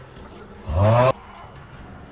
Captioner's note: sighs